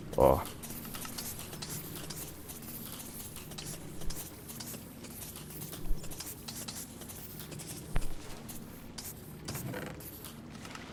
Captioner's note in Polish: odgłos umierających creeperów